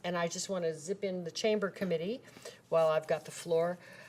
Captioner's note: none